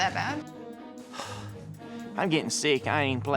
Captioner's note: sighs